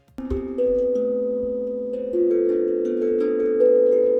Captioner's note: chiming